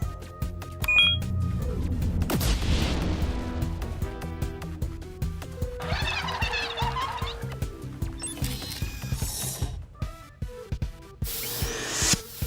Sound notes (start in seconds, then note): 0.8 beeps; 5.8 cheers and applause